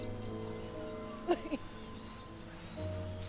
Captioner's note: crying